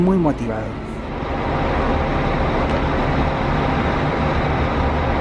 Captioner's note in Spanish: sonido ambiente y la llegada del bus